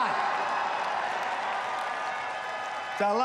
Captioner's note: applause